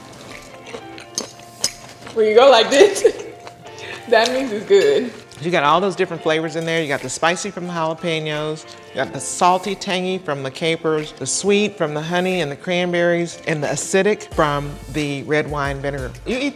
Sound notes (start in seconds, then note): 2.2 laughs